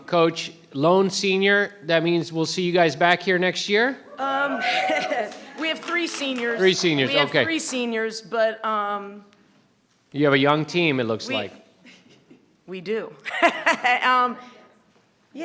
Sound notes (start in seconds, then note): 4.1 crowd cheering; 4.6 chuckles; 13.3 chuckles